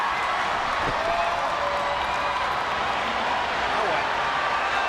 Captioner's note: spectators cheering